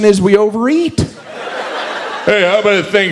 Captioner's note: audience laughs